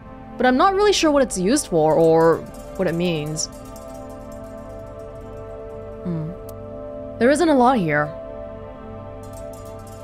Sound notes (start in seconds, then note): none